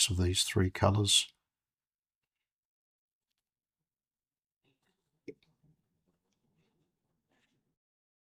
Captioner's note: silence